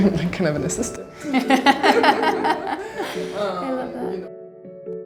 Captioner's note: laughing